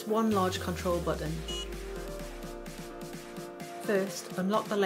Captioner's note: device beeps